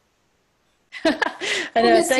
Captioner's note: chuckles